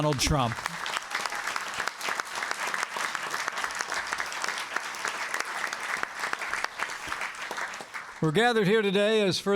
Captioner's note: applause